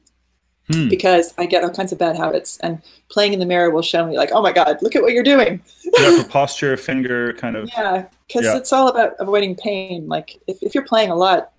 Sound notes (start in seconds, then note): 5.8 laughing